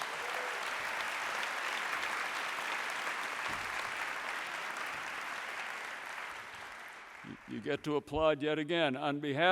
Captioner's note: applause